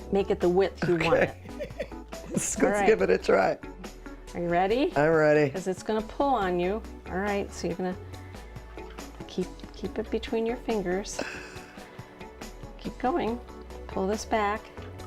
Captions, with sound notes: make it the width you want it. - Okay.(laughs) - Alright. - Let's give it a try. - Are you ready? - I'm ready. - This is gonna pull on you. Alright, so you're gonna keep it between your fingers. (gasping) Keep going. Pull this back.